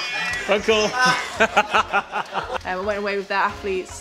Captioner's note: laughing